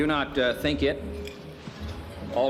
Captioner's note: utensils clinking